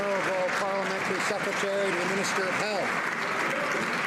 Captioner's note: some Applause